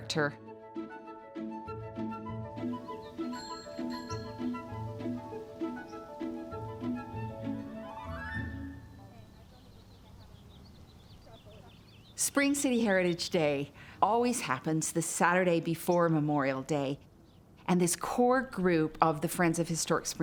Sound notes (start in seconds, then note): 0.2 lighthearted music; 3.3 bike bell ringing; 10.3 birds tweeting